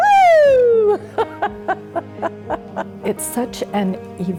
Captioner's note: laughing